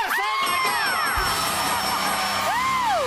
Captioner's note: dinging